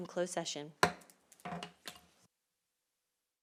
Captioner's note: gavel hitting dais; silence